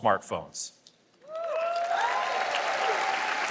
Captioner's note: applause